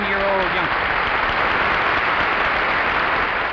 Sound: audience clapping

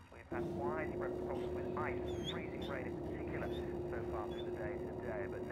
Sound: dog whining

